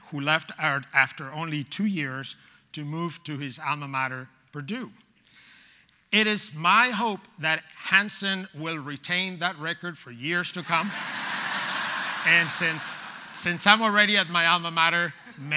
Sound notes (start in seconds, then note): 10.6 audience laughs